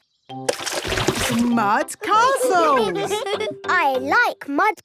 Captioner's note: all giggling